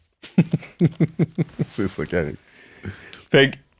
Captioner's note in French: rires